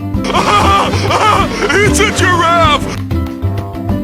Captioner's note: laughing